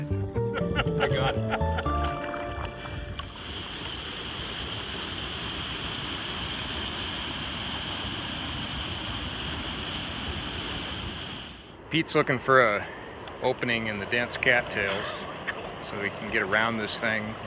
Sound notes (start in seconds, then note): 0.4 laughing; 2.6 water rushing